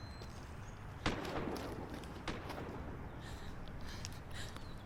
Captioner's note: guns firing